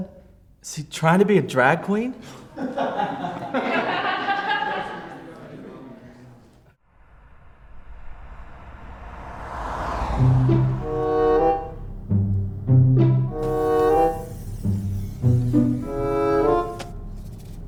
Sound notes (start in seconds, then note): 2.3 students laughing; 10.3 quirky orchestral music; 13.3 gas hissing